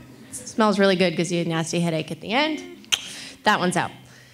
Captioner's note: clicks tongue